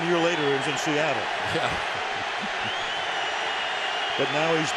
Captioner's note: crowd cheering